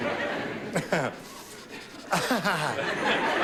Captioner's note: laughing